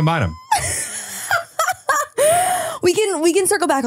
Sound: laughing

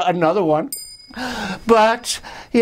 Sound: chime

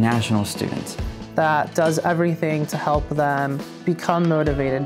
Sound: voiceover

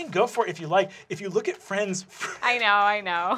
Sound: chuckling

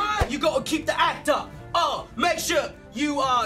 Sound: "English" accent

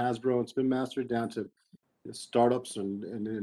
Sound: speaking faintly

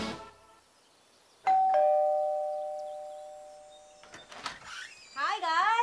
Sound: doorbell rings

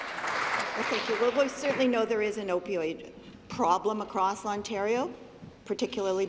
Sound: applause

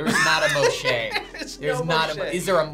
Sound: laughs

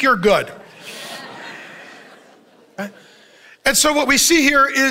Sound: congregation chuckles

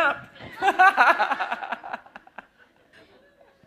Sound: laughter

